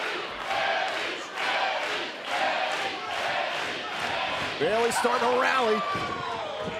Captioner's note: fans chanting